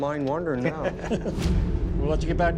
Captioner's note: laughter